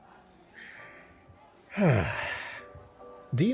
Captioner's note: sighs